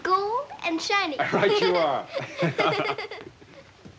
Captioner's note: giggling